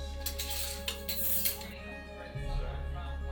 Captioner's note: hangers rattling; gentle music